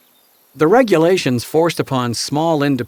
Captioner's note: voiceover